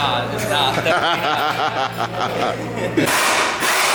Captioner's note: laughter